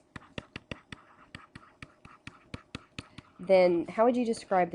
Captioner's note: pen scribbling